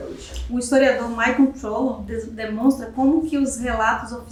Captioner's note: speaking portuguese